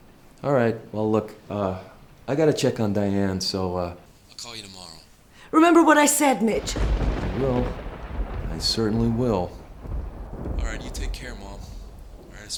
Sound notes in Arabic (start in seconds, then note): 6.4 دوي الرعد